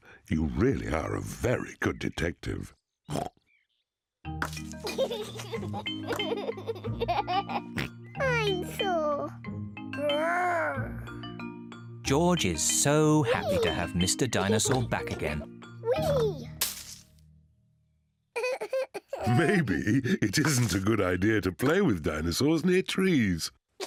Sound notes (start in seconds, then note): 18.4 giggles